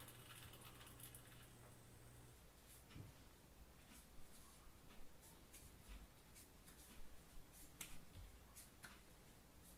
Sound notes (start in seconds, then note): 3.7 footsteps